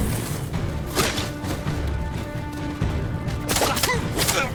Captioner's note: gunshots